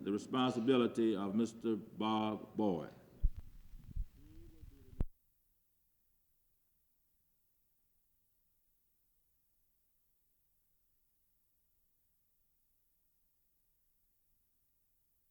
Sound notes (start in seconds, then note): 3.2 silence